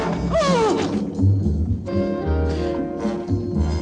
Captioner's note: groaning